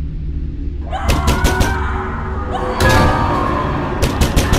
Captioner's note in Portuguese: Gritos